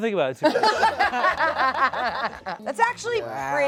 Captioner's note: everyone laughs